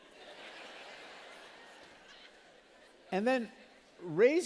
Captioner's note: laughter